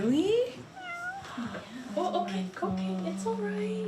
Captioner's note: overlapping chattering